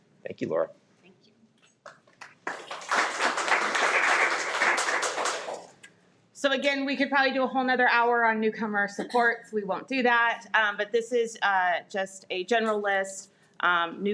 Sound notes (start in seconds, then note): 1.8 everyone applauds